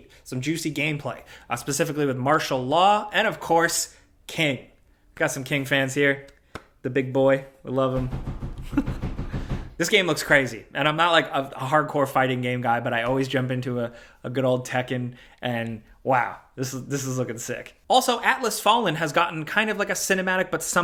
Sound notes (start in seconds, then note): 6.5 claps hands; 8.6 chuckles